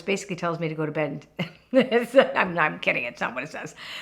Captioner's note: laughing